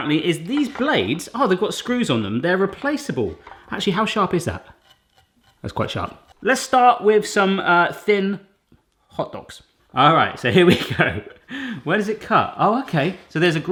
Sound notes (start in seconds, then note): 5.2 rubbing; 10.6 laughing